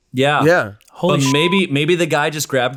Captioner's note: beep